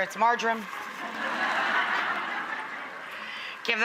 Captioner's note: audience laughing